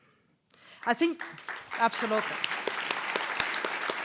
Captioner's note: applause